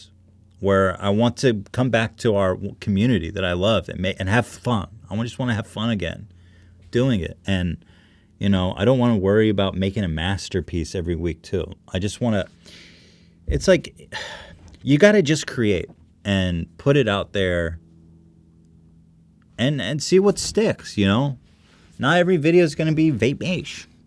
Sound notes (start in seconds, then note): 14.1 sigh